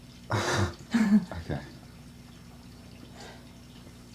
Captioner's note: uncomfortable Laughter